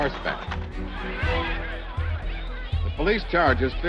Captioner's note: people shouting